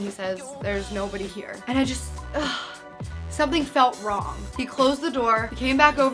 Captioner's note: sigh